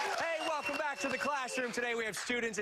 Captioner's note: applause